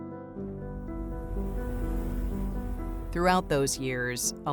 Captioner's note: transition whooshes